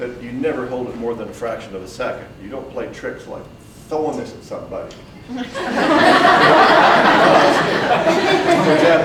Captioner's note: audience breaks out in laughter